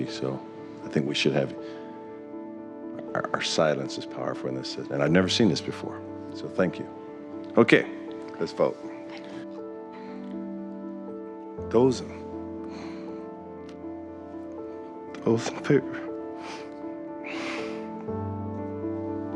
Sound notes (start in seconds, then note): 11.3 voice breaking; 16.3 sobbing quietly